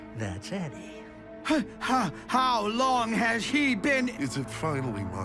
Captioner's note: stammering